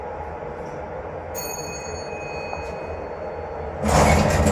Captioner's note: chime